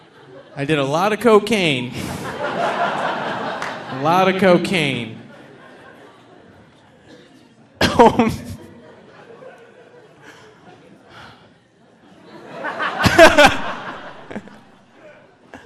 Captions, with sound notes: I did a lot of cocaine. (audience laughing) A lot of cocaine. (all laughing)